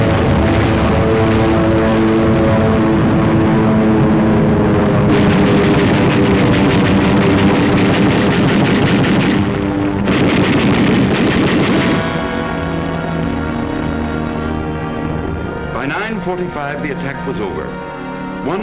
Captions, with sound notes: (gun firing) - [Voiceover] By 9:45 the attack was over.